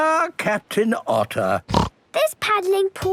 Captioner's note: snorts